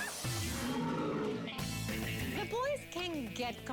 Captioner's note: growls